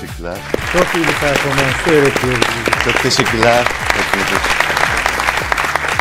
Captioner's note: applause